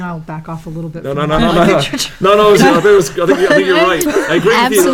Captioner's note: laugh